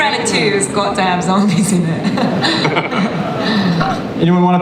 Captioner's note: laughs